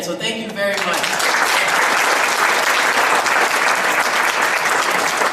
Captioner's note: audience applauds